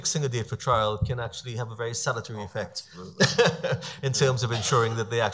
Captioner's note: laughs